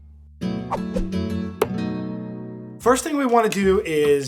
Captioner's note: air whooshing; upbeat music